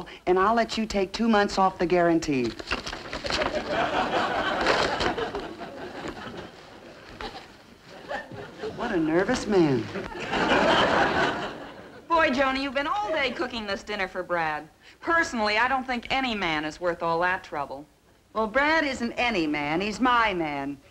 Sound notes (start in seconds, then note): 3.3 audience laughing; 10.7 audience laughing